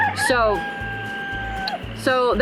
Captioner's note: rooster crows